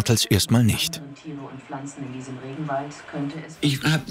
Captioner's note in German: Stimmen aus dem Fernseher